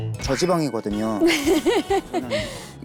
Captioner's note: laughing